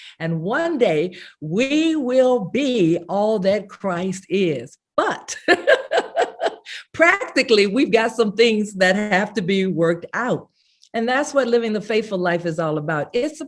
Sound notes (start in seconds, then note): 5.5 laughs